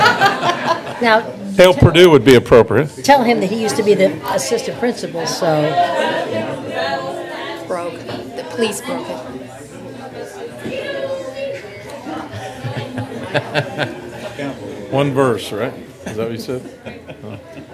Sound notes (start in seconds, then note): 11.4 chatter; 17.2 laughter